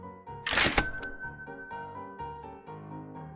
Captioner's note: cash register ding sound